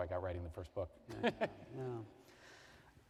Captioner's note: chuckles